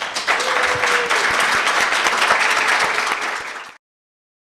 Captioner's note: applause